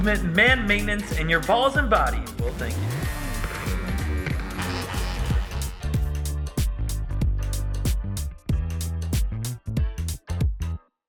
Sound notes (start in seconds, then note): 2.7 shaver buzzing; 5.5 mellow percussion music